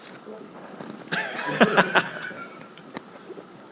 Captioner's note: laughter